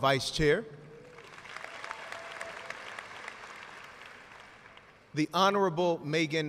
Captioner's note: audience cheers and applauds